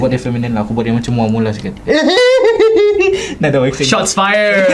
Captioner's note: laughs